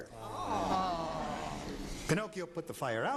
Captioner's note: all exclaiming with pity